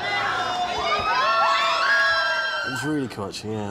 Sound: girls screaming

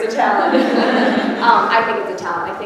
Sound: everyone laughing

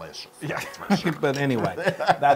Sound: laugh

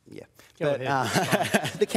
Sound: laughs

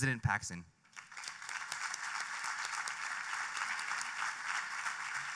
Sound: applause

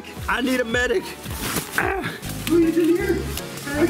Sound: gasps

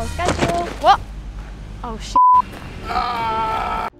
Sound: thud

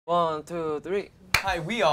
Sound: claps

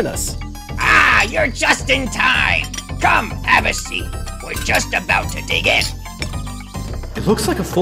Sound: dishes clanking together; wooden chairs scraping on floor

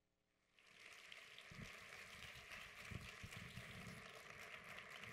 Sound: audience applauds

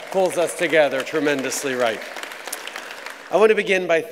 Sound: applause

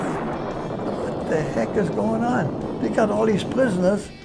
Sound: bomb explosions

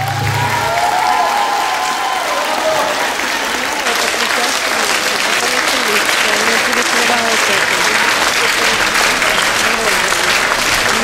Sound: applause

